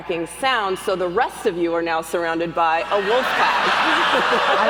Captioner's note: laughs and howls from the audience